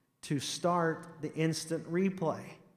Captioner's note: none